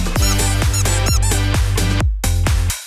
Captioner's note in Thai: ดังหัวเราะ; เสียงเอฟเฟคบีบ